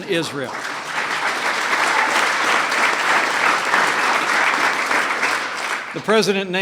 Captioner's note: applause